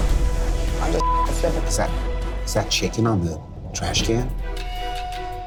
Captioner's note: beep